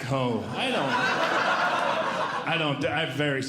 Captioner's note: audience Laughing